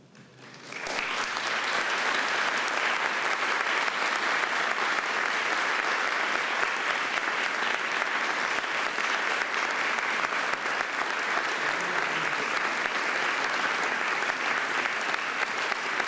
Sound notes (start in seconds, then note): 0.9 audience applauding